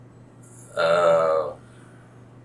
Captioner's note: laughs